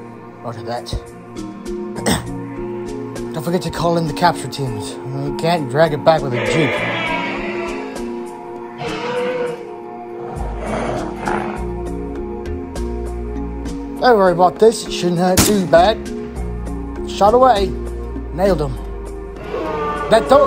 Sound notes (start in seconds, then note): 2.0 grunts; 8.6 shrieking; 15.4 gun fires; 19.3 dinosaur wailing